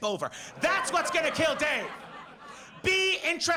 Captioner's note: audience laughs